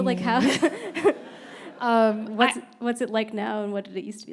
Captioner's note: panelists and audience laughing